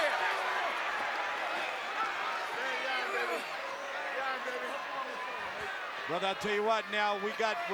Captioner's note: applause